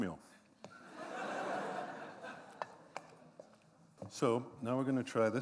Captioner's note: laughter